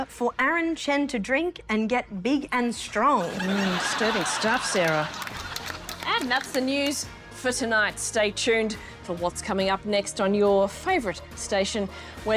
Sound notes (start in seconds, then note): 3.2 laughter